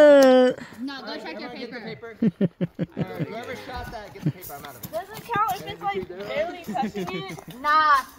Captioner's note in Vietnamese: Tiếng cười